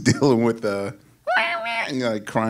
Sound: imitates crying kittens

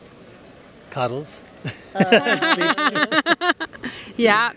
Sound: laughs

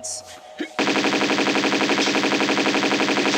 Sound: bratatata

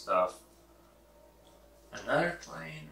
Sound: plane noise

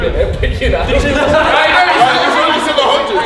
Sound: group laughs

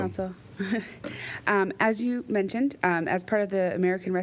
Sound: laughter

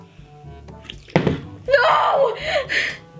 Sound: bottle landing

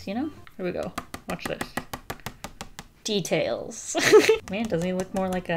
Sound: laughs

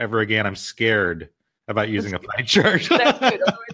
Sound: laughs

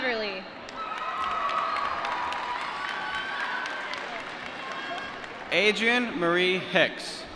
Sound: applause

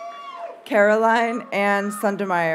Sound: audience cheers and applauds

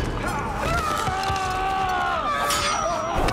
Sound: yells

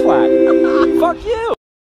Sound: laughs

